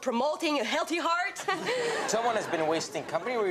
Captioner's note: audience laughs